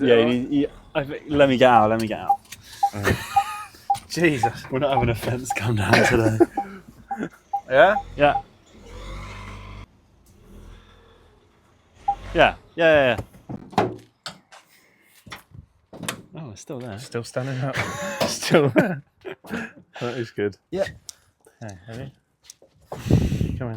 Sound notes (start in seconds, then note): 12.0 beeping; 18.1 laughing